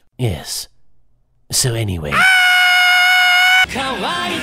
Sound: Tea screams in Spanish

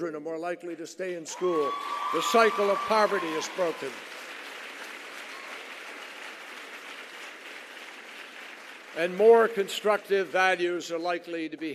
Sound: applause

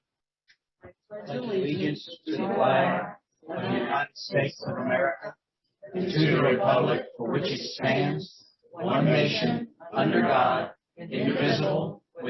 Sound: Pledge of Allegiance recited in unison

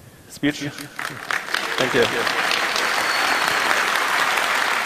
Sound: applause

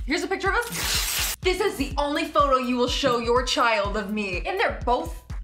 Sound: ripping

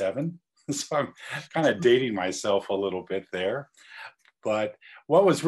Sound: laugh

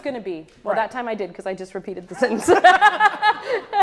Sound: laughs

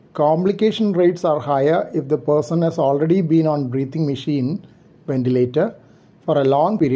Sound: ventilator

